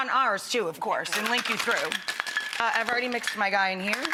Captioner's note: shaker rattles